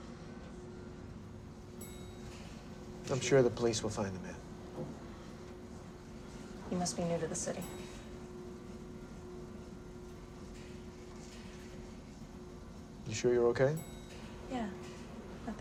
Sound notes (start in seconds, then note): 0.0 elevator graunches; 0.2 elevator whirring; 1.9 elevator dings; 9.0 elevator whirring